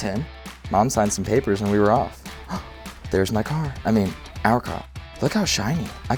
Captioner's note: gasp